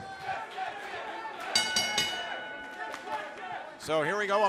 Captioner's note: bell ringing